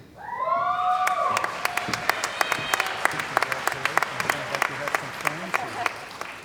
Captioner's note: cheering & Applause